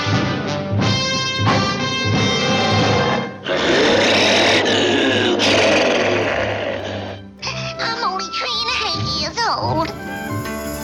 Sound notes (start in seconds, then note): 2.2 loud roars; 7.4 crying